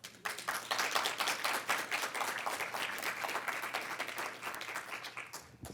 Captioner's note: audience clapping